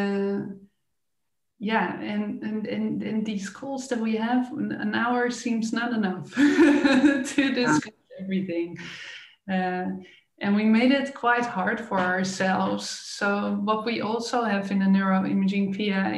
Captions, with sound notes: In these calls that we have, an hour seems not enough (laughing) to discuss everything, and we made it quite hard for ourselves. What we also have in the neuroimaging PIA